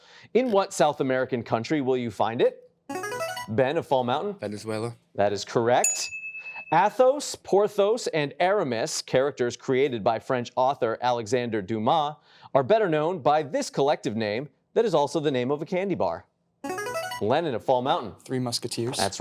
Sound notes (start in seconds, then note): 2.9 buzzer chimes; 16.7 buzzer chimes